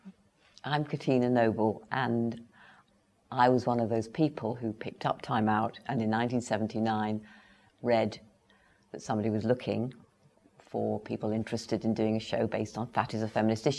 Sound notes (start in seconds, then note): none